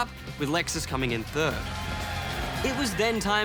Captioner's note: cheering